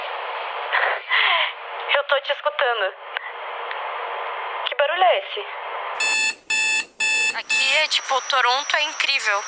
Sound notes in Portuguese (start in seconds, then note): 2.5 ruído de interferência; 6.0 campainha